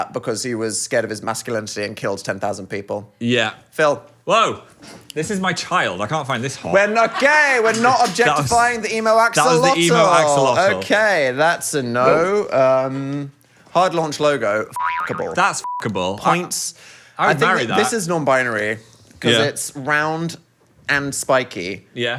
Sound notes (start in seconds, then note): 14.7 spring boings